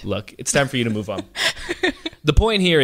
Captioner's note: laughs